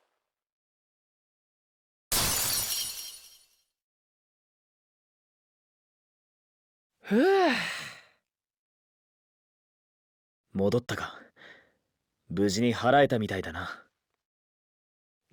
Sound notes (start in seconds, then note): 7.0 sigh in relief